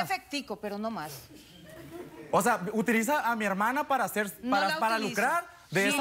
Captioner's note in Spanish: sonrisas del público